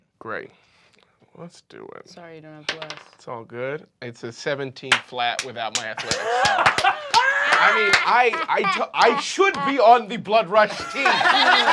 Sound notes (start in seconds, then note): 5.7 applause; 10.6 laughter